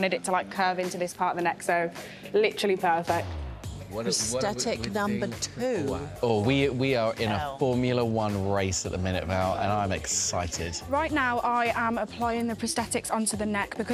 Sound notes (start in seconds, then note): none